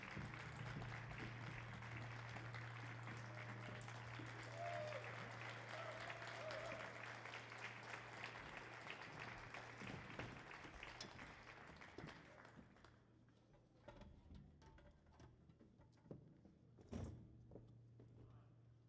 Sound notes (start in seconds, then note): 4.8 audience whooping